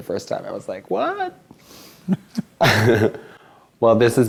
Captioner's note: laughs